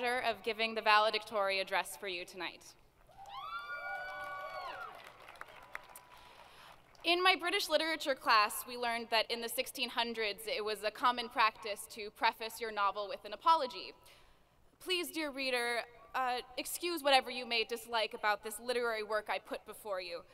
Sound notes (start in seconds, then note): 3.1 crowd cheering